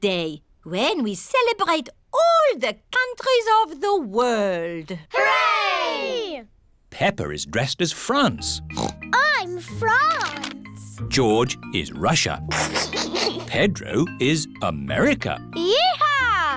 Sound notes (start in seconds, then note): 8.7 oinks; 12.4 giggles